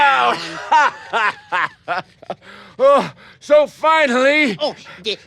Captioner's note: laughs